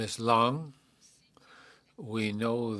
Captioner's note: speaking French